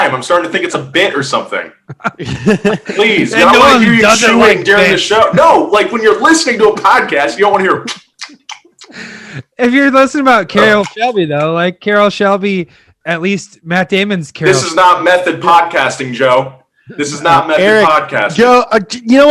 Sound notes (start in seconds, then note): 8.7 chewing loudly